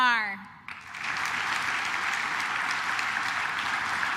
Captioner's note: claps